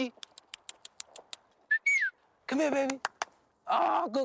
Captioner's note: whistles